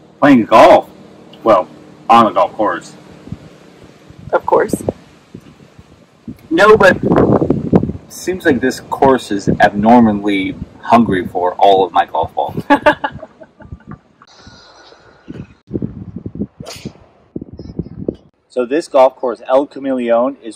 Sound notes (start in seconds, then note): 12.6 laughing